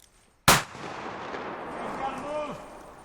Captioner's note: gun shot